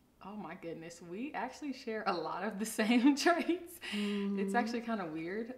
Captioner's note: laughs